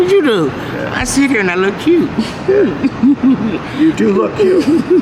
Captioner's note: laughs